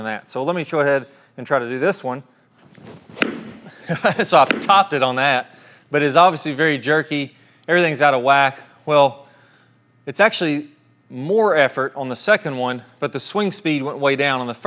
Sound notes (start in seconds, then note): 3.1 golf ball thwacks; 3.1 golf ball thwacks again